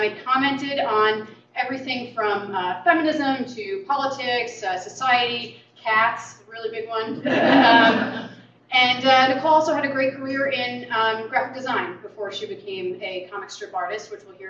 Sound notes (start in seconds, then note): 7.1 laughter